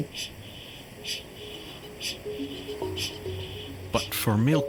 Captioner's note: kākāpō chinging